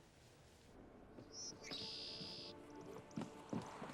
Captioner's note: birds chirping